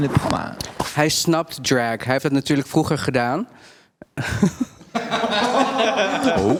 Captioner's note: all giggle